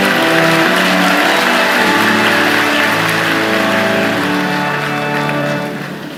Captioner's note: cheers and Applause